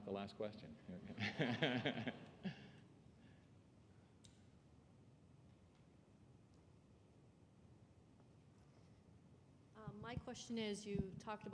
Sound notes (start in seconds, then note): 1.1 laughter